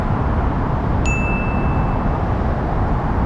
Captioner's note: ding